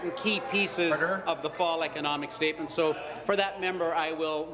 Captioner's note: applause